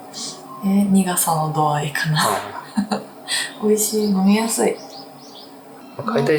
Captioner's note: laughs